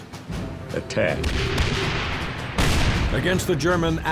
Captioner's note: tank turrets firing